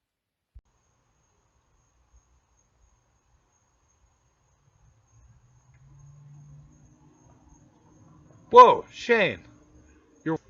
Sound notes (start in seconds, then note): none